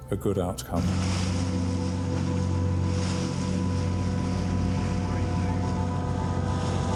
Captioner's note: water splashing; lifeboat engine whirring; intense instrumental music